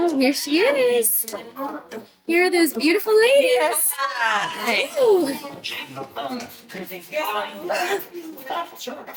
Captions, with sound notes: Oh, there she is. Here are those beautiful ladies. (cast members murmur)